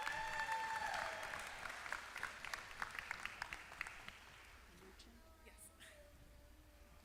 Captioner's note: applause